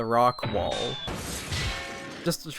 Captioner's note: heavy impact sound